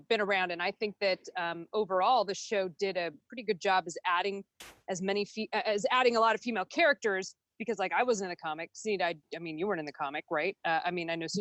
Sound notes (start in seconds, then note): none